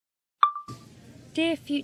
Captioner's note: chime of a phone recorder turning on; cafe ambiance